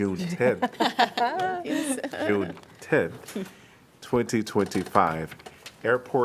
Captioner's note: laughter